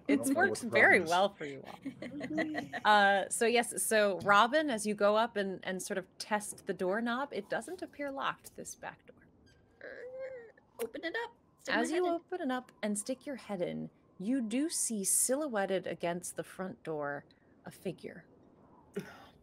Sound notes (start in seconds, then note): 1.6 Hope laughing; 9.9 Hope imitates door creaking